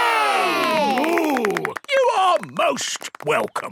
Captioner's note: applause